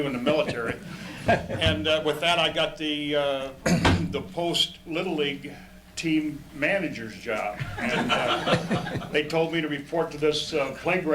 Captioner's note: audience Laughter